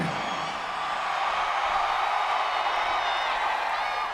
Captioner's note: audience cheering